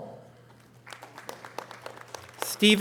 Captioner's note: audience applause